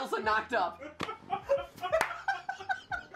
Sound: Matpat and Jason burst into laughter

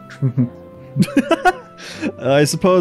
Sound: titters

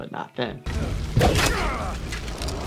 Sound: arrow whooshing; grunting

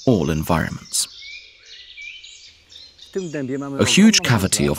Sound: sounds of nature

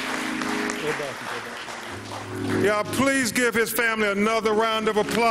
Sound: applause

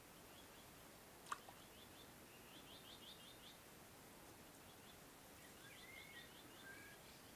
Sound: birds continue chirping

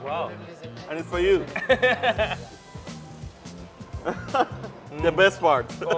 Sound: laughing

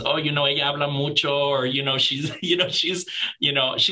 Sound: speaking Native Language

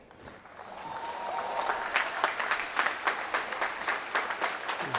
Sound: applause

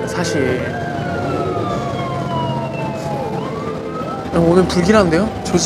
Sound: sudden siren sounds

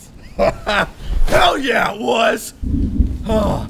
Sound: laughs

